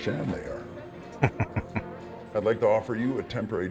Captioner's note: chuckling